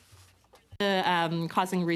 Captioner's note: speaking French